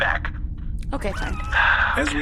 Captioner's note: squelching sounds